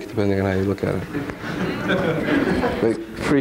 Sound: audience laughing

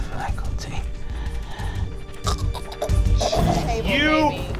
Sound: death rattle

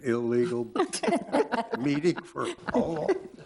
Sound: all laughing

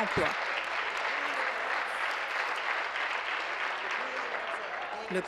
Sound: applause

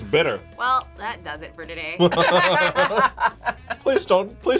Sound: both laugh

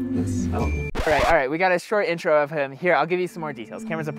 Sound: record scratch

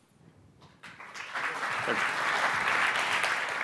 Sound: applause

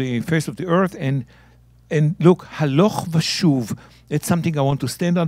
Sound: speaking in Hebrew

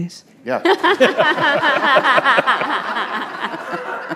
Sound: all laughing

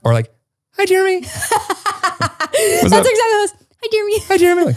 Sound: laughs

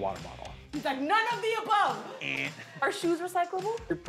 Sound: imitates buzzer

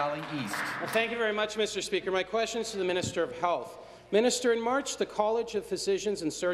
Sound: applause

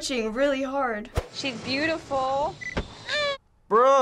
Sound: baby cries

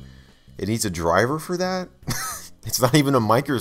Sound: wHeEzE

